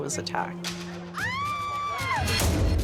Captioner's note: woman screaming